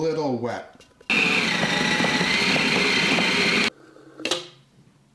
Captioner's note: machine whirring